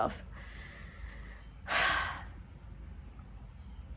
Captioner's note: resigned sigh